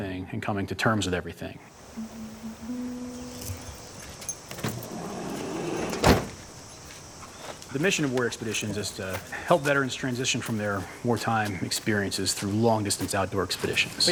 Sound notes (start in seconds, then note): 1.8 calm music; 3.2 keys jingle; 4.4 van door slides shut